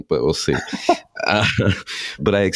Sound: laughing

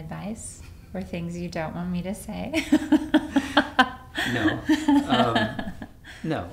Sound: laughs

